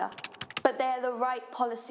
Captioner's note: typing